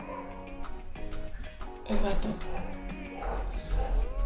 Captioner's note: cat mewing -dog barking